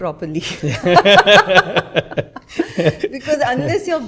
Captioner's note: laughter